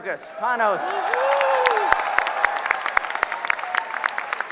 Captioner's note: applause